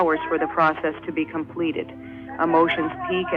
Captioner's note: archival news audio